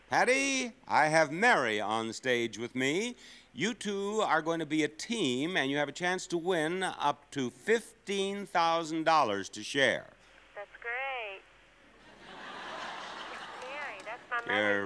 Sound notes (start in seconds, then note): 12.0 audience laughing